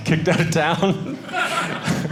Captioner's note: audience laughing